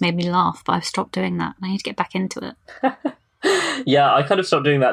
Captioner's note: laughs